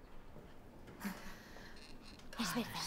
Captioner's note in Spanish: suspiran